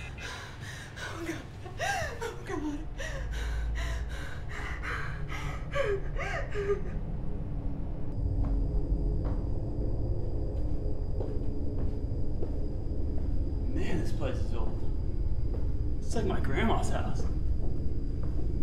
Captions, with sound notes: Oh God. Oh God. (crying) Man. This place is old. It’s like my grandma's house.